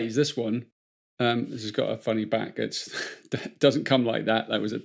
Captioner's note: chuckles